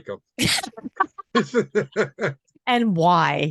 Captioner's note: laughing loudly